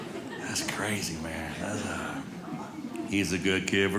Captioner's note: audience laughing